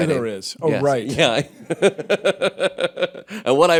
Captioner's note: laughter